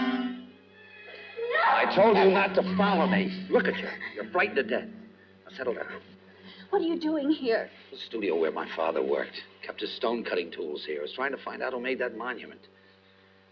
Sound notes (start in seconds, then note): 0.9 screaming